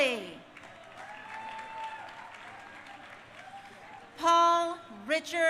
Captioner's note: crowd cheering